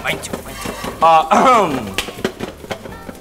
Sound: clears throat

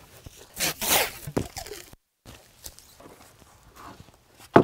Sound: tape ripping

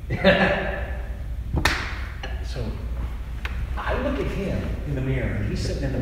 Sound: laughs

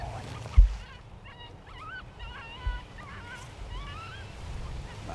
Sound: jackrabbit calling

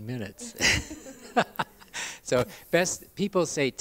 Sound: laugh

